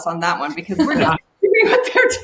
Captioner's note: laughing